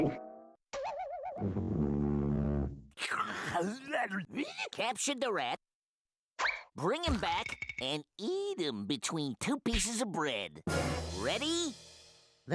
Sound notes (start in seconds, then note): 2.9 salivating